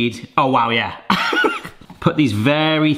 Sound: laughs

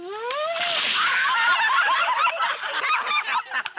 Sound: laughing

